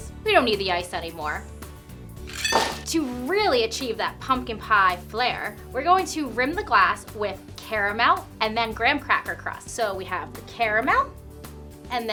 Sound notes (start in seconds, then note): 2.3 ice clinks